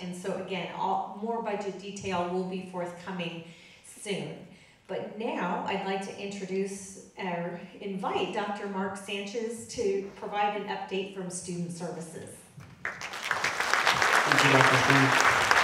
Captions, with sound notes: And so again, more budget detail will be forthcoming soon. But now, I'd like to introduce, or invite, Dr. Mark Sanchez to provide an update from Student Services. (audience clapping) - Thank you Dr. Stearns.